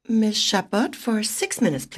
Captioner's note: speaking French